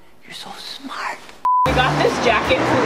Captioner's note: high pitched beep